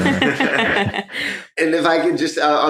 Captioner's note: all laughing